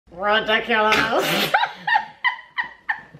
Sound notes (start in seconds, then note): 0.1 Snape impression; 1.2 laughing